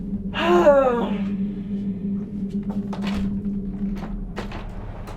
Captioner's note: girlfriend sighs theatrically; door clatters; dramatic music